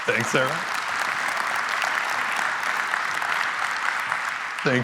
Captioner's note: applause